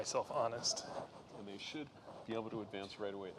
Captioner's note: chattering